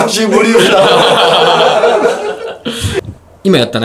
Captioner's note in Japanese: 笑い